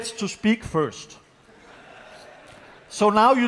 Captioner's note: laughter